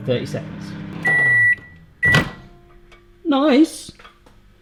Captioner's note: microwave beeping